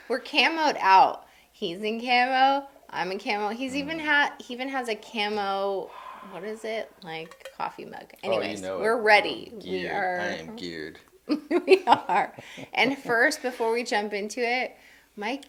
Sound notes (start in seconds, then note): 11.2 laughing